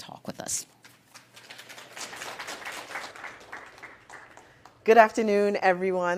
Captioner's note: applause